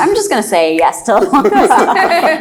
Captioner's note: laughs